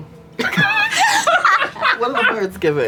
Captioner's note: laughter